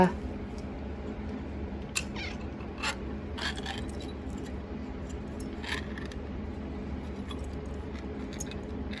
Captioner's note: Caprice meows; can top opens